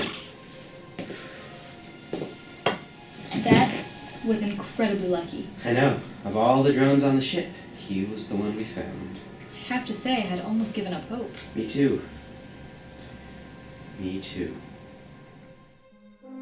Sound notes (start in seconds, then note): 0.0 Esso sighs